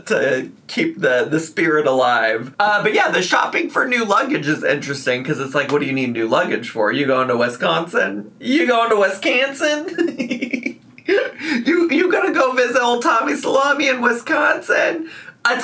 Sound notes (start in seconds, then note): 9.8 laughs